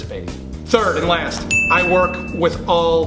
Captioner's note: ding